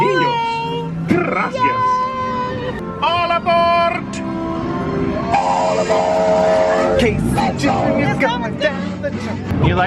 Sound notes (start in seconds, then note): 5.3 train horn blows